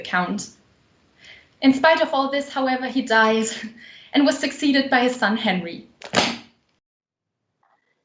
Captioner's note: loudly closes book